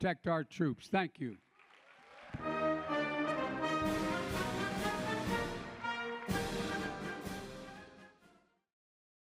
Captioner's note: applause